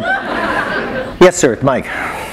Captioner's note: laughter